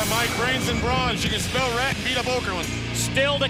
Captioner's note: crowd cheering